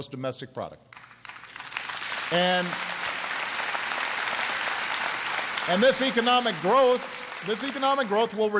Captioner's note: applause